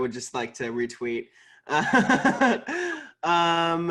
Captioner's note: laughing